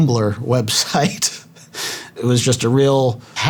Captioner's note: chuckling